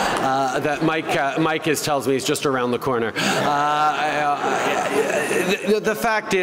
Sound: laughter

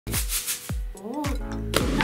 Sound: rice shaking

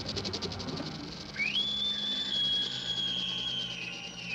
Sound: high-pitched scream

